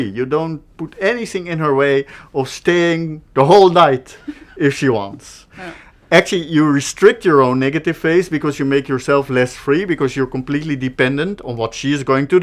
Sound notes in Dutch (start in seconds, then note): 4.1 lach